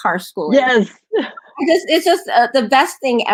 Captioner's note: laughs